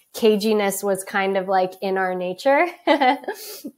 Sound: laughs

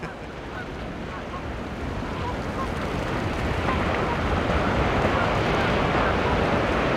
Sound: birds chirping; waves whooshing

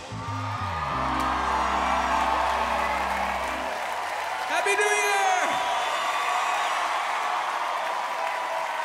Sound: crowd Cheering

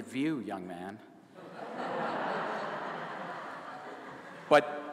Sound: laughter

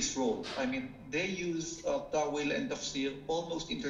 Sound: speaking foreign language

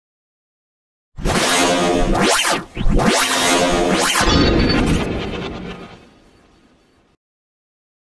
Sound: sound of morphing

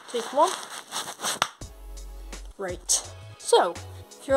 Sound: clap

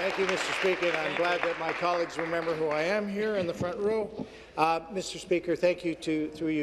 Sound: applause; cheers

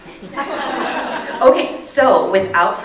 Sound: audience laughing

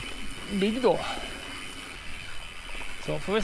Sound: bad attempt at local dialect

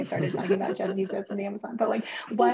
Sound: chuckles

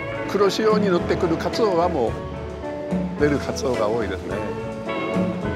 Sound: speaking in Japanese

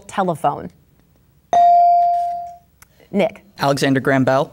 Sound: bell dinging

